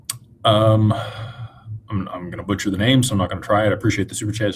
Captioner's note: sighs